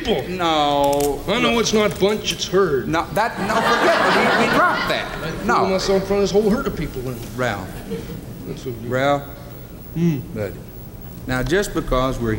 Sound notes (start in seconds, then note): 3.2 audience laughs; 7.7 light laughter